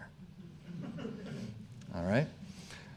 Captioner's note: audience chuckling